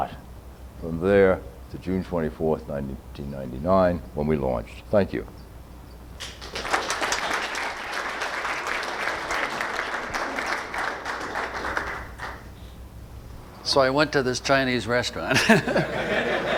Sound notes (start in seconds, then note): 8.4 audience applause